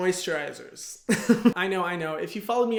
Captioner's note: laughs